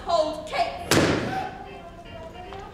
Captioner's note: Grumio gasps; balloon pops; Baptista humming